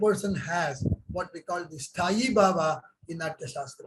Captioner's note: speaks in Hindi